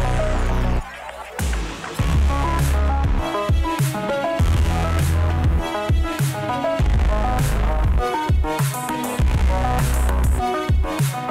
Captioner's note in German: Beifall